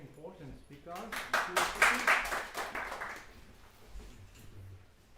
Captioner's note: applause